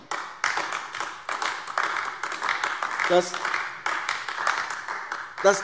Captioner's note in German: Beifall AfD